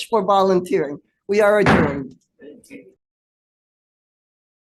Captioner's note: gavel bangs